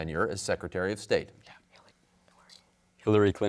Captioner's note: whispers